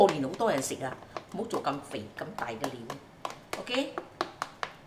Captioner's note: Cantonese